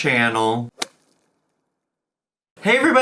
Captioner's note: logo thuds